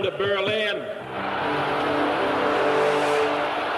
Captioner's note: crowd cheers; dramatic spirited music; crowd applauds